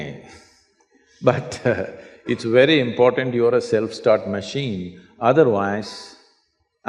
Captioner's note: laughs